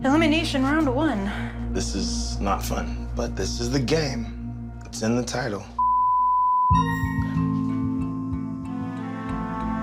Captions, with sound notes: - Elimination round one. - This is not fun, but this is the game it's in the title (beep). (suspenseful music)